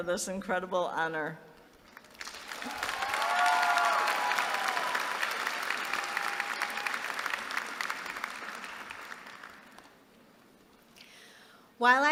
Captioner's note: applause